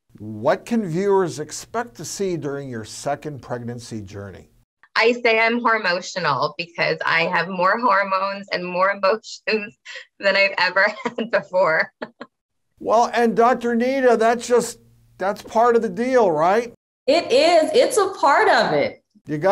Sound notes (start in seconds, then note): 10.9 Loren laughs